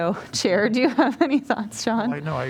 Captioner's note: laughter